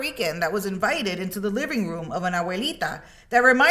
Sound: speaks in Spanish

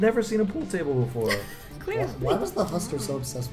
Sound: laughs

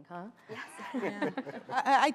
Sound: laughter

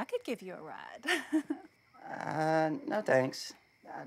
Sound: laughs

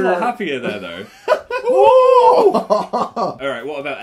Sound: laughing

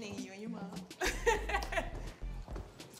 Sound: laughs

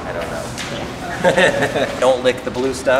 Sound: laughing

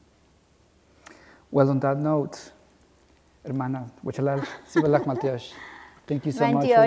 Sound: non-english

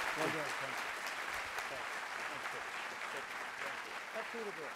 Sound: clapping

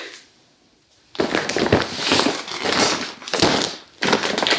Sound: thick plastic crinkling

